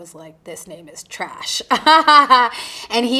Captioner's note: chuckling